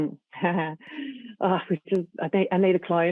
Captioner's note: chuckles